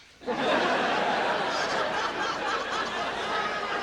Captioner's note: audience laughing